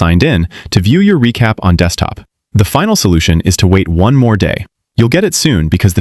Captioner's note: thoughtful